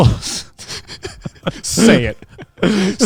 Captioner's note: laughing